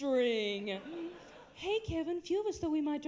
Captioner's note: higher voice